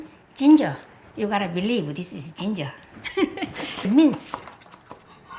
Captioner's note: laughs